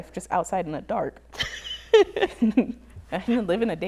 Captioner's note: laughs